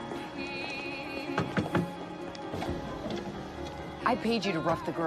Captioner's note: knocking